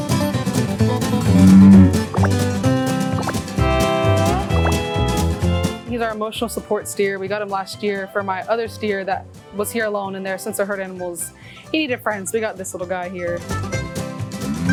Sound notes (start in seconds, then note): 1.2 cow mooing; 1.2 graphics popping; 14.5 cow mooing